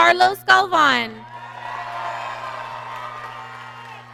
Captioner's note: applause